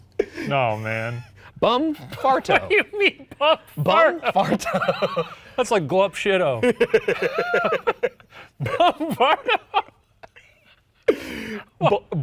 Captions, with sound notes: No, man. - Bum Farto. (laughs) What do you mean, Bum Farto? - Bum Farto. (both laughing) - That's like Glup Shitto (both laughing) Bum Farto? (laughs)